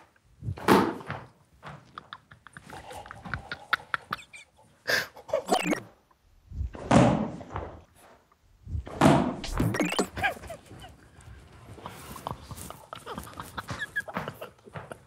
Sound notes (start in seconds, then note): 0.6 tennis ball smacks back; 1.6 group quietly laughing continues; 6.9 tennis ball smacks back; 9.8 group quietly laughing continues; 13.6 tennis ball gently smacks back